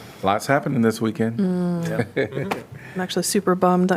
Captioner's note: laughter